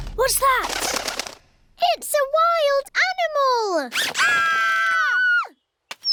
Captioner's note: fluttering; all screaming